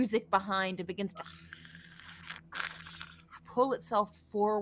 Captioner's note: hisses